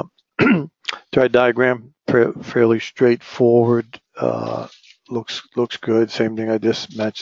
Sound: cough

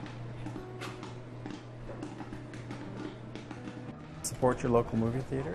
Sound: popcorn popping

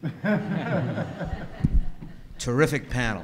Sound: everyone laughing

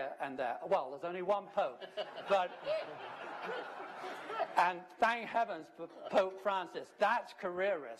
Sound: laughter

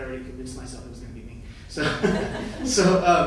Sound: laughing

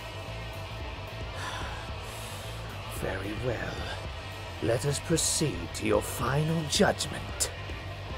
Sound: sighs

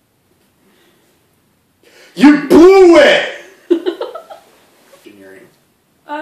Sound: giggles

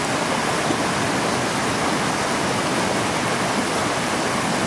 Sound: flowing creek water in the woods

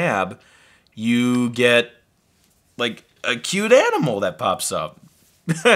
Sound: laughs

